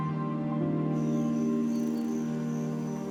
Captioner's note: birds chirping, insects buzzing